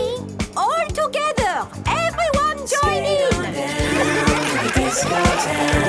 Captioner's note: laughter